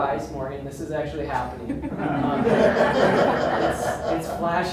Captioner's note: audience laughs